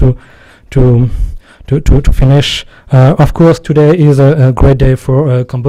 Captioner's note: stutters